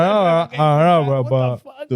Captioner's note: speaking In Foreign Language